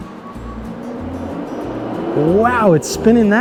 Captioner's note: air cannon whirring